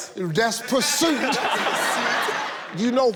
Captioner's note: audience laughs